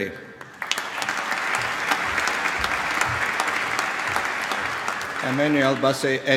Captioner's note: applause